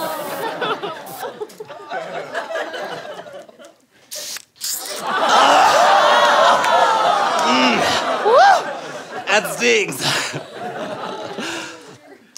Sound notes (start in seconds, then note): 2.1 aerosol can spraying; 4.1 snorts spray